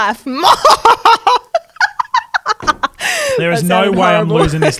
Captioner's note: laughs